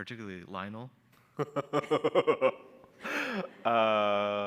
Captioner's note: laughs